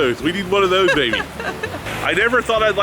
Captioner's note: laughs